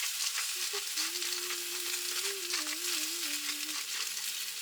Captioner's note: hum, hum, hum~